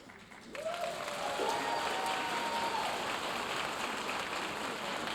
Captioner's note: audience applauding